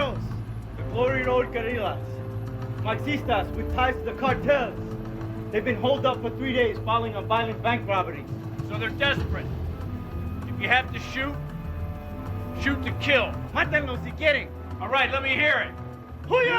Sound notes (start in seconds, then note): 14.2 speaking in foreign language